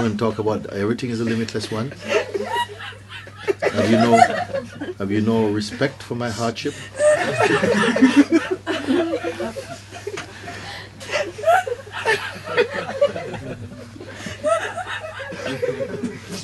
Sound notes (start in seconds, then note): 9.5 laughter; 11.0 laughter continues